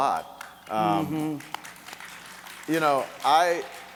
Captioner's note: audience clapping